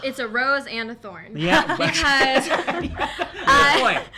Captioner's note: laughs